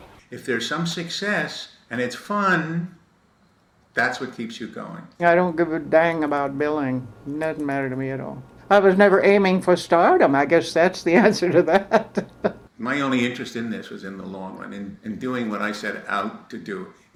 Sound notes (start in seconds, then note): 10.4 laughs